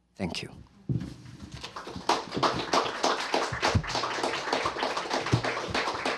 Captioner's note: applause